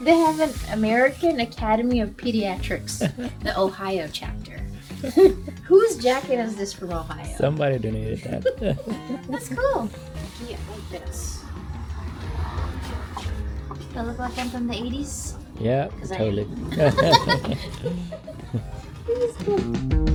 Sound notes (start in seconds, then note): 14.8 laughter